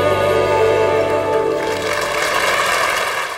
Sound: audience applauding

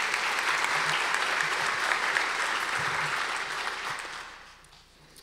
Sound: audience applause

